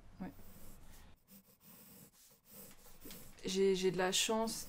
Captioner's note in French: bruit de crayon sur papier